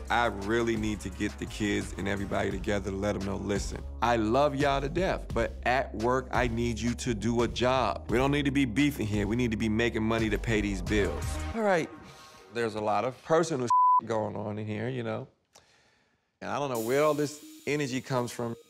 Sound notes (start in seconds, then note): 13.7 beep